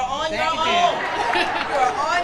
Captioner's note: audience laughs